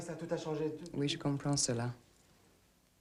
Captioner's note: speaking french